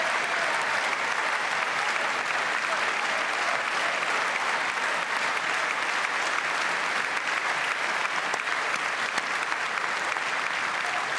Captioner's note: cheers and applause